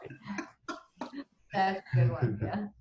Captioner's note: laughs